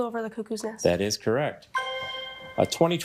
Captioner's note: bell dings